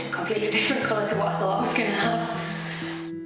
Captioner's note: laughs